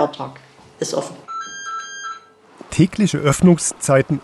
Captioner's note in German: Telefon klingelt